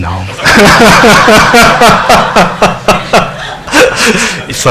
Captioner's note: laughing